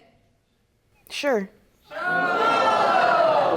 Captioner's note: audience groaning